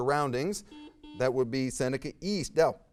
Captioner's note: buzzer beeps